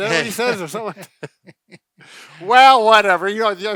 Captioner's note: chuckling